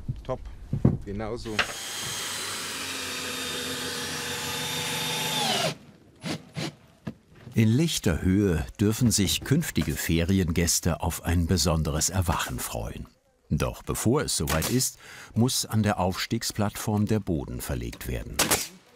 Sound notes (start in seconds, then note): 1.5 drilling noises